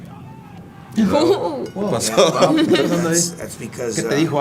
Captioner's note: laugh